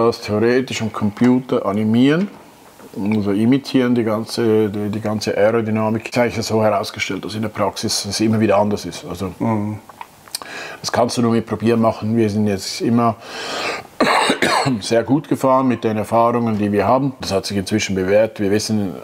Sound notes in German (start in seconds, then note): 13.5 hustet